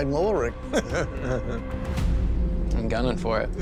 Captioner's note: laughs